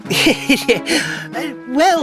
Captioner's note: guiltily